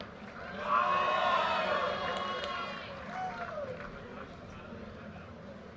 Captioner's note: audience cheers and applause